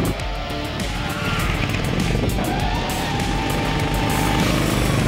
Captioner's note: engines roar and brakes squeal